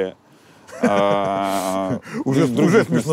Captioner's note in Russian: смеется